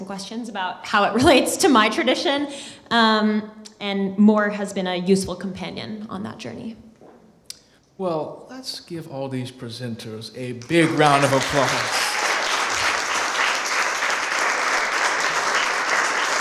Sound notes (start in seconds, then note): 10.6 applause